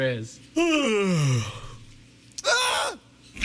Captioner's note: yawning